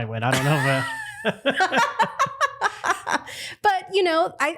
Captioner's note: laughter